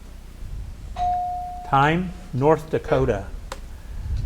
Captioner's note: bell dings